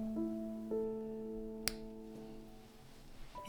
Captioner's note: snip